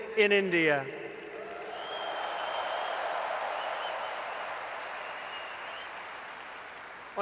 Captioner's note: applause